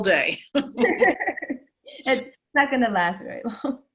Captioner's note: laugh